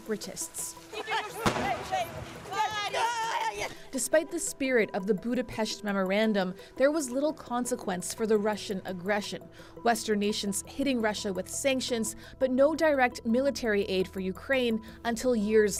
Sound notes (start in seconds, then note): 1.4 gunshots